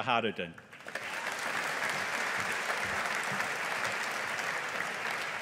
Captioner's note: audience applauding